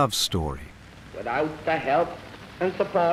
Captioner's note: radio broadcast of abdication